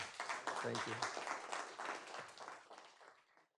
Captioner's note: clapping